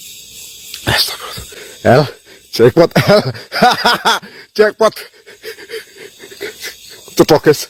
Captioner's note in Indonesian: tertawa